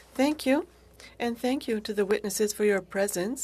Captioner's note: speaking French